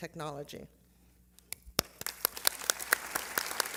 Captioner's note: applause